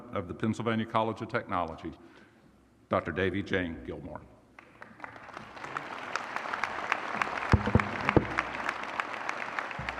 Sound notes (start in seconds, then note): 4.7 audience applause